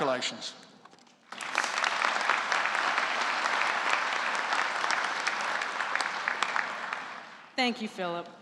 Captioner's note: applause